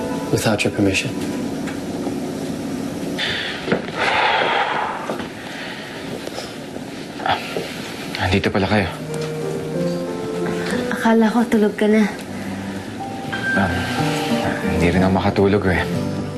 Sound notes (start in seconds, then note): 4.0 sighs